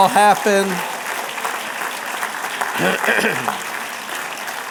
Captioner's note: applause